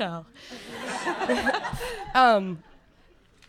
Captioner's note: audience laughter